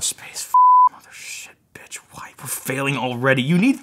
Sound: beep

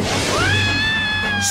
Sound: yelping

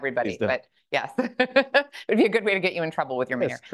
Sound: laughs

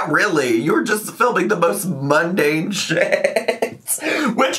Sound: laughs

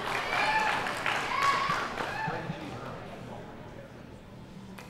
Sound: audience cheering

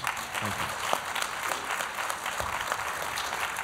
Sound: applause

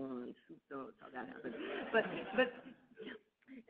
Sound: audience laughing

